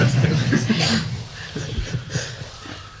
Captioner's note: laughter